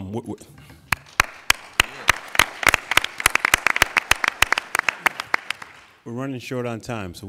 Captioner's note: applauding